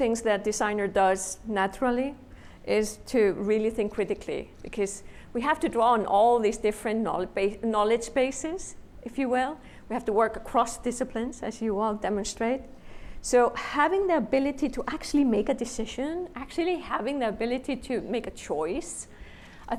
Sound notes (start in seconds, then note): none